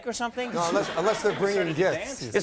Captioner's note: audience laughs